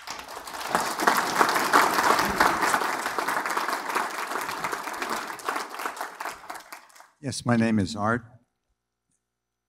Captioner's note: applause